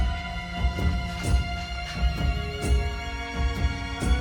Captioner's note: spritzes